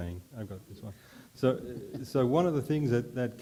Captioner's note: chuckles